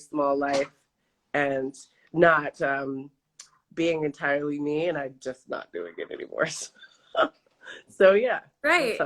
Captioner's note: laughs